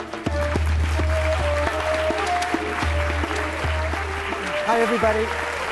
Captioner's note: applause